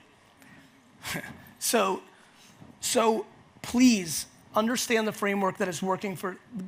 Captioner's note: chuckles